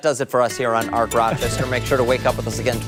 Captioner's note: laughter